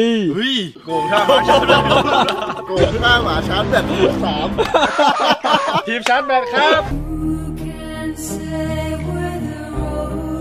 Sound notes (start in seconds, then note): 1.0 laughs; 7.1 sad music playing